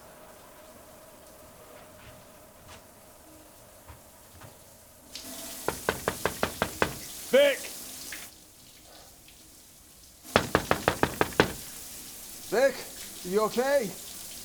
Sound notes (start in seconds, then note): 5.6 knocks on door; 10.3 knocking